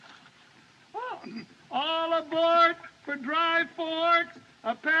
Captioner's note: clears Throat